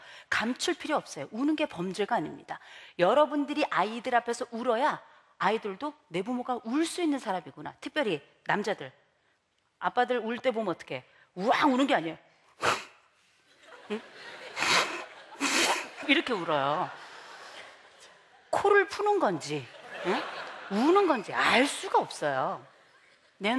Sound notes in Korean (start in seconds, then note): 14.4 울음 참는 소리; 17.9 웃음